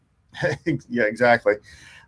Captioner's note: laughing